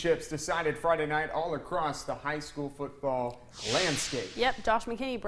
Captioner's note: drill stinger